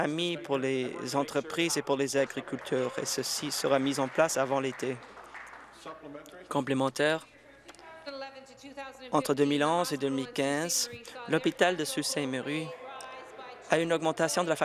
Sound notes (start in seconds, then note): 6.9 applause